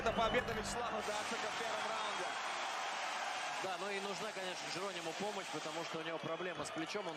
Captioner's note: cheering